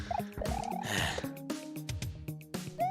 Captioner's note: sigh